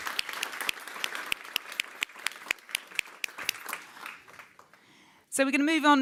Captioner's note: audience claps